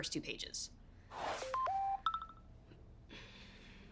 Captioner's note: phone Dings